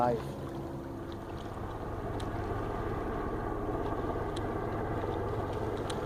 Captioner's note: distant Helicopter